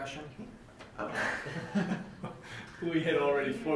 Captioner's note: laughing